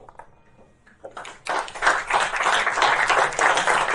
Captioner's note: applause